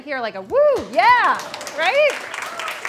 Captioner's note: applause